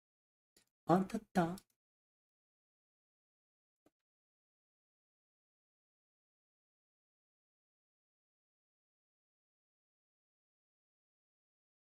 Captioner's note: speaking in foreign language